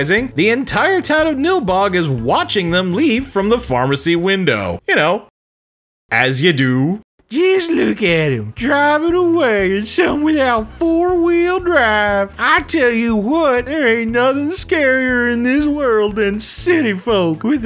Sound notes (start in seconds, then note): 7.2 terrible hillbilly voice